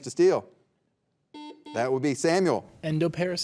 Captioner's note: buzzer beeping